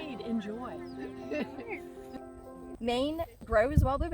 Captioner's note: laughs